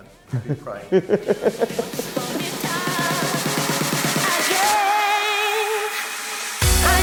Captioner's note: laughing; upbeat club music